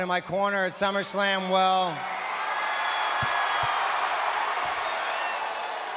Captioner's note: applause